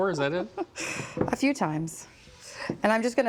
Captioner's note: chuckles